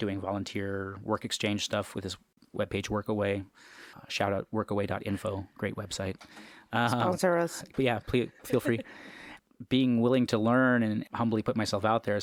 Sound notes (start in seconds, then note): 8.4 laughs